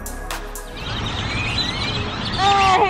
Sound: birds squawking

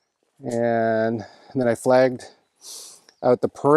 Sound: sniffs

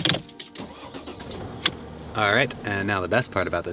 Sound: car engine revving

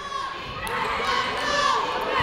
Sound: people shouting in the crowd

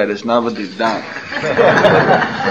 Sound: laughter

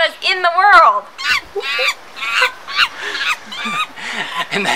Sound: monkey sounds

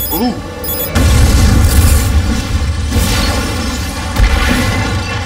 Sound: explosion

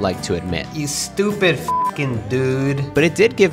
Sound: beep

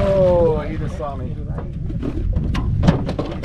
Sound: fish splashing

